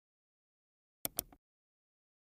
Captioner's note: mouse click